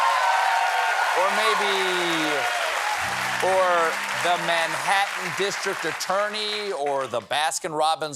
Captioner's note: cheers and applause